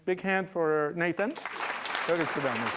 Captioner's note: applause